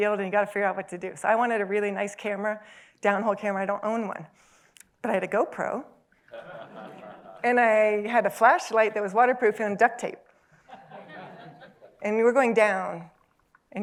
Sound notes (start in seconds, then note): 6.3 laughter; 10.6 laughter